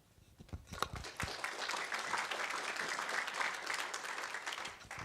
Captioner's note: audience applauds